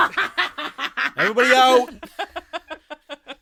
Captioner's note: several cast members burst out laughing again